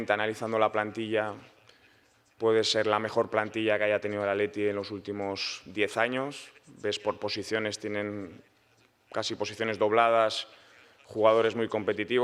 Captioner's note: Spanish